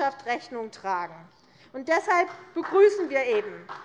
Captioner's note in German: Beifall